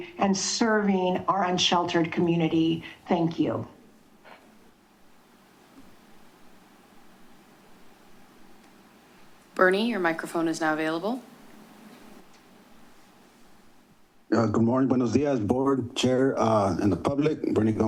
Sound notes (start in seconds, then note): 15.0 foreign language